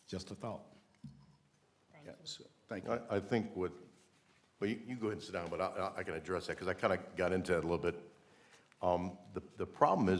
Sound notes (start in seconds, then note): none